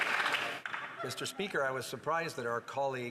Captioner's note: some Applause